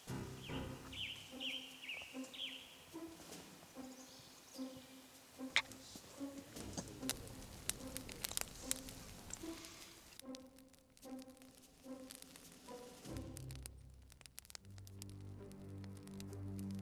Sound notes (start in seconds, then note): 0.0 dramatic music; 8.0 fire crackling